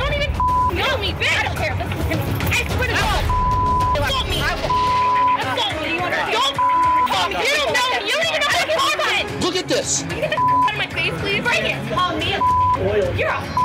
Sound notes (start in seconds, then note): 0.3 beep; 2.6 women arguing; 11.9 beep